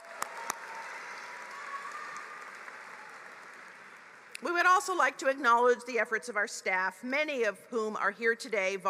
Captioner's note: applause